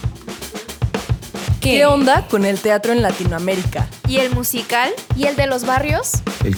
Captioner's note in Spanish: Varias voces